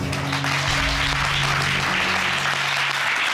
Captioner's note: applause